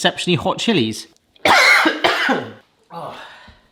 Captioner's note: coughing; sighs